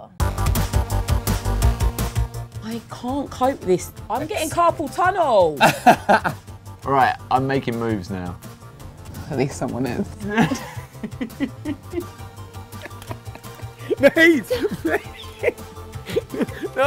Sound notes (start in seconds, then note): 0.2 exciting electronic music; 10.2 both laugh; 16.0 laughs